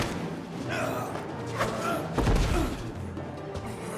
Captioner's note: Robert groaning